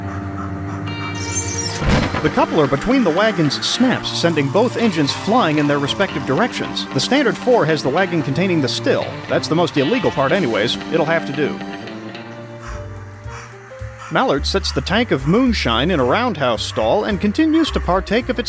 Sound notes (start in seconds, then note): 1.6 snap